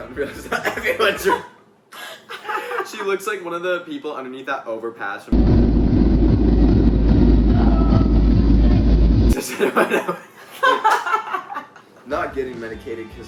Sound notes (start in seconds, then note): 1.8 all laughing; 5.4 upbeat music; 9.3 all laughing